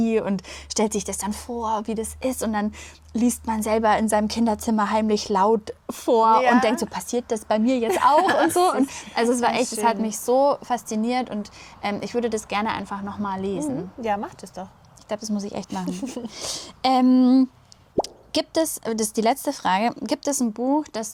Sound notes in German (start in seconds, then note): 7.8 gelächter